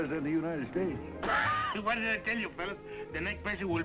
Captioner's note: laughs